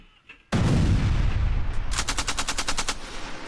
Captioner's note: explosion bangs; gunfire rattling